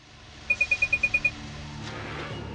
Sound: computer tones

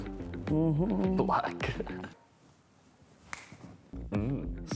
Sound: laughs

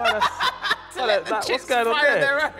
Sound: laughs loudly

